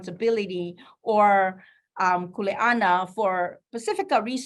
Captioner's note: speaking in foreign language